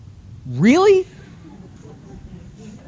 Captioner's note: laughter